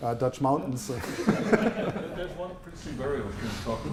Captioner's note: laughter